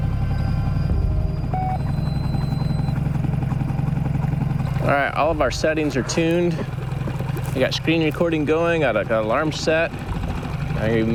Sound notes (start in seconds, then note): 0.1 magnetometer beeps